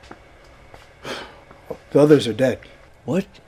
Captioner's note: sighs